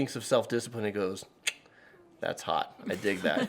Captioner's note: clicks tongue; laugh